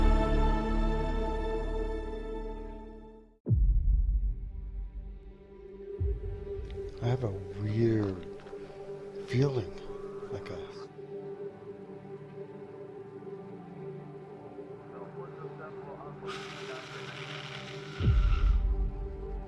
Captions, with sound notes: [tense sound] - I have a weird feeling, I guess. [background faint radio chatter] [static sound] [tense sound]